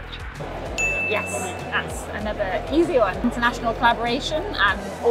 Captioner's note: bell chime